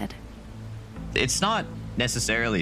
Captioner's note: water rushing